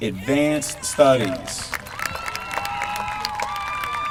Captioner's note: applause